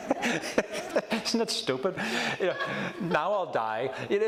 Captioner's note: laughs; audience laughs